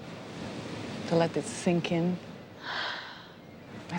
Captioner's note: sighs